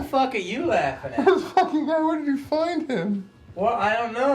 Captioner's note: laughing